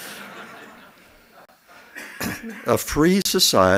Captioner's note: laughs